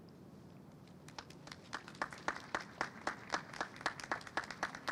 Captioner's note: audience applauds